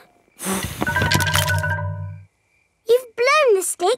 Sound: blowing

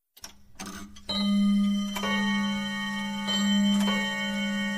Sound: clock chimes

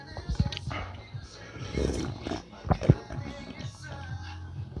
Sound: gulp gulp

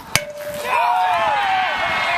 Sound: crowd cheers

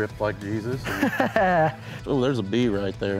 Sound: laughs

